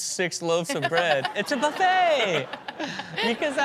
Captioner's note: audience laughs